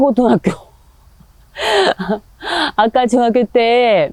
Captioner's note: laughs